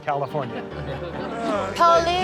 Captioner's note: laughing